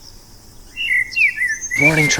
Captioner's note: birds chirping